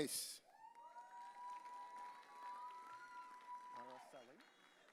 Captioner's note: audience cheering